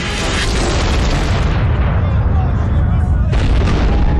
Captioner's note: explosions